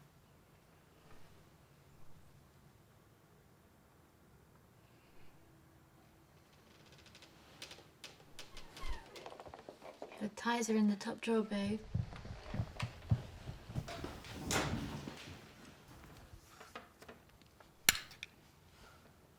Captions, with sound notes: - The ties are in the top drawer babe. (footsteps)